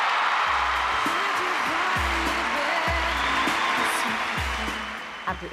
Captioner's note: audience cheering